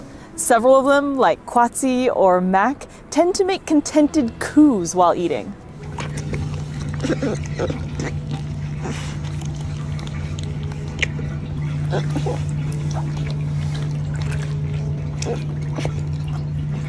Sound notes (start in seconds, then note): 5.7 background music; 5.7 gentle water trickling; 5.7 soft squeaking vocalizations from otter pup